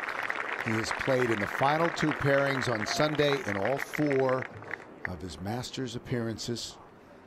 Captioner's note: cheers and applause